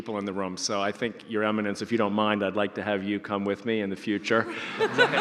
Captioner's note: audience laughter